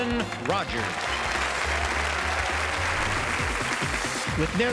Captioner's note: audience applauds